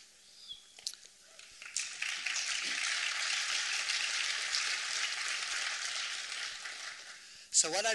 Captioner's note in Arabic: تصفيق